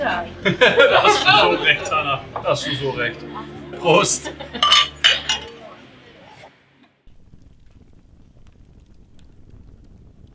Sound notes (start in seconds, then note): 4.5 glasses clinking